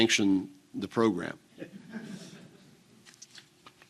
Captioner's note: audience laughing